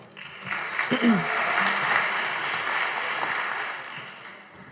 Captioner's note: audience applauding